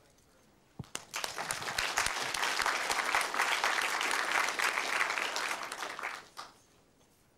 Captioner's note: applause